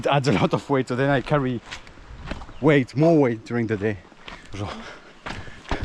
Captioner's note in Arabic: بالفرنسية